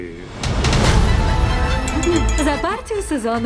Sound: glass clinking

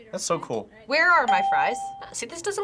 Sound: bell rings

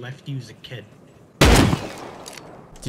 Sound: gunshot

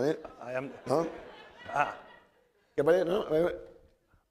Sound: speaking spanish

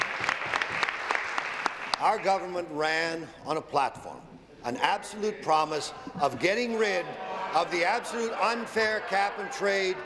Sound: applause

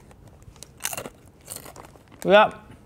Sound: crunching chip

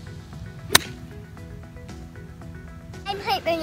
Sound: club clatters against ball

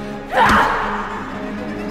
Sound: Shelley screams

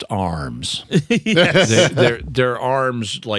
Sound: laughing

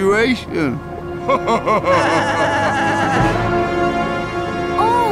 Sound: laughing

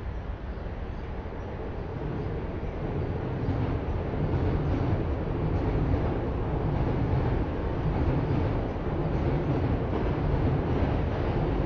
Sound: train Noises

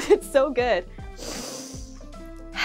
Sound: exhales; inhales

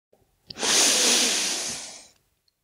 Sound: inhale

